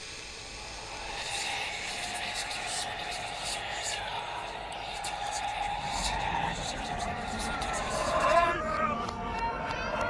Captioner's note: ghost whispers